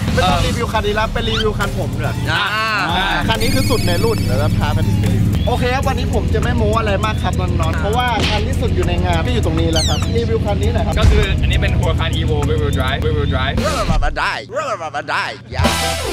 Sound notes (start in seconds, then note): 13.6 mumbling in English